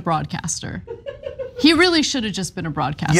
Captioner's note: laugh